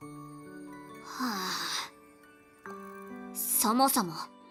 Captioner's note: sigh